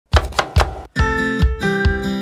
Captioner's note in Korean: 칼도마소리